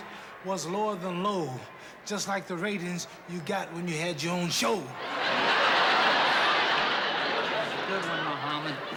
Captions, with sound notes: was lower than low, just like the ratings you got when you had your own show. [ Laughter ] Good one, Muhammad.